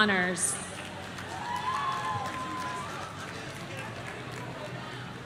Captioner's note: audience cheering